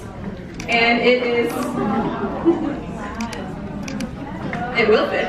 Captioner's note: audience murmuring